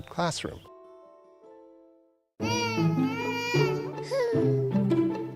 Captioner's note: child Crying